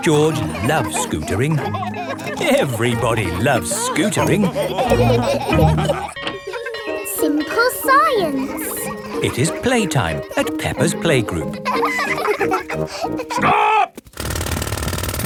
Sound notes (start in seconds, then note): 4.9 bell tolling; 5.5 all laughing; 6.2 children laughing; 11.9 children laughing